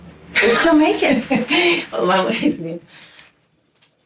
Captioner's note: laughs